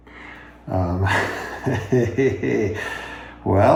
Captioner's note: laughs